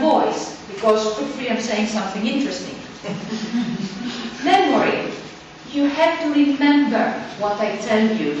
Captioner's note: audience laughs